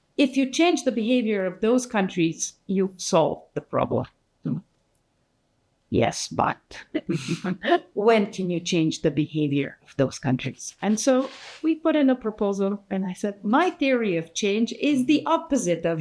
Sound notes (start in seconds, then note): 7.2 audience laughing